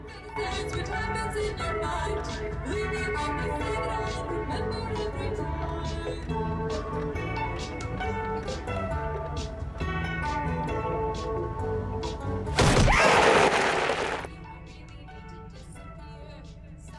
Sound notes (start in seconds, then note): 14.7 bang; 15.2 scream